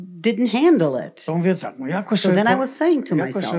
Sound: foreign language

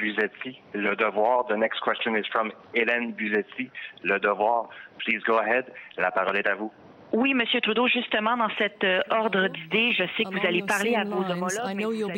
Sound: speaking french

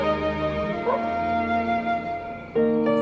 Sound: dog barking

